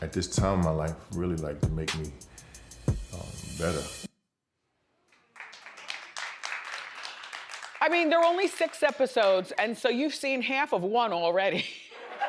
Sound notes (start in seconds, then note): 5.2 audience applauds